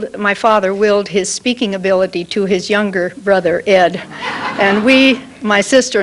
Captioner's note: laughter